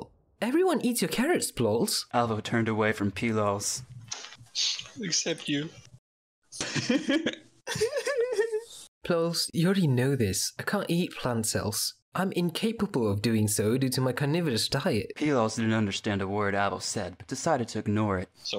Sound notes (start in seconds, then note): 4.4 sniff; 7.8 sobs; 7.8 sobs too for unknown reasons